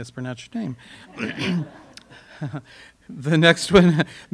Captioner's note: audience laughter